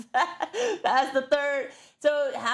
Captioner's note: laugh